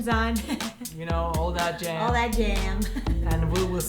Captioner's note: chuckles